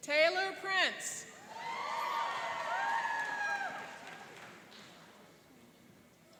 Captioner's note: cheering and applauding